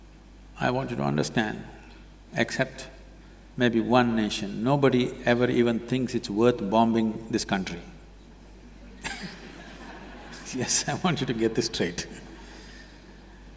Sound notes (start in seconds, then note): 8.9 laughter; 12.8 laughs